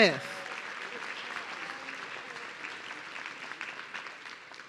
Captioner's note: audience cheering